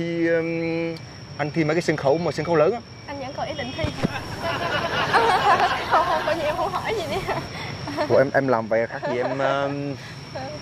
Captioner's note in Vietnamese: Tiếng cười